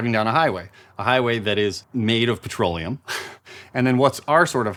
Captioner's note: laughs